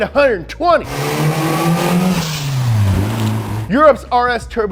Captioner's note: engine roaring